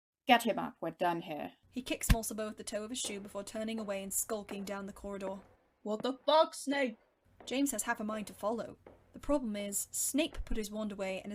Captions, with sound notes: “Get him up, we’re done here.” He kicks Mulciber with the toe of his shoe before turning away and skulking down the corridor. [Footsteps of Snape leaving] “What the fuck Snape?” James has half a mind to follow. The problem is, Snape put his wand away,